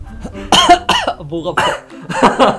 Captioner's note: cough cough